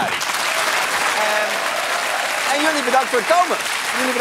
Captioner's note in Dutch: applaus